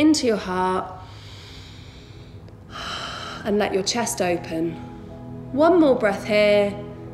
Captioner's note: heavy breathing